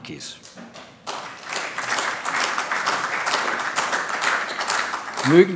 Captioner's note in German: Beifall AfD